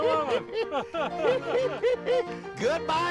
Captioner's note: both laughing